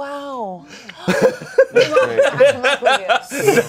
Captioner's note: everyone laughs